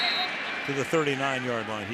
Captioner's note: whistle blows